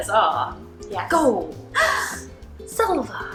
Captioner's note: gasps excitedly